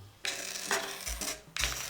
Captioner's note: bonk